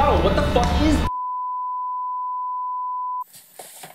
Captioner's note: TV signal tone